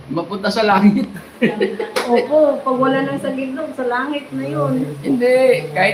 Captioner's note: laughter